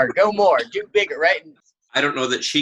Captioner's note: laughing